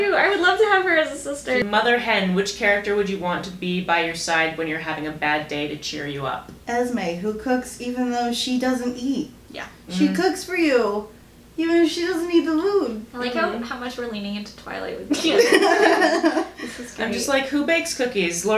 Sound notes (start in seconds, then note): 15.1 laughter